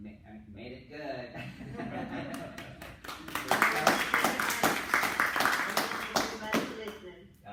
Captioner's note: clapping